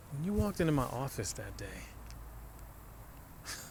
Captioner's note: scoffs